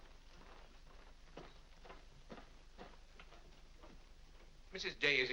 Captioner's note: soft footsteps up stairs